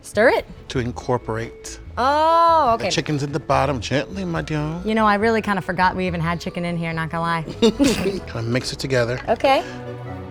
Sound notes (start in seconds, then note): 7.5 laughing